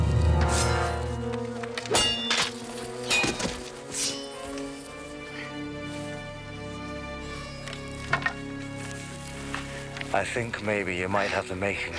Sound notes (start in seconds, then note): none